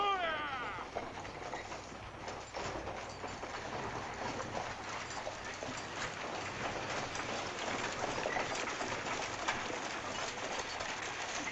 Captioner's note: stagecoach driver shouts; stagecoach rattles